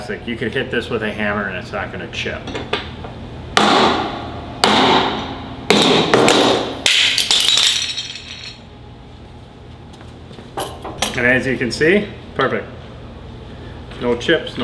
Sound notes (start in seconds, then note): 3.5 hammering; 6.2 crashing